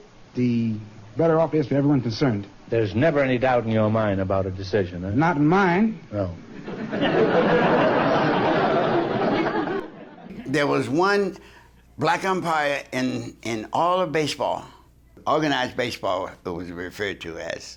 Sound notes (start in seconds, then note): 6.5 audience laughs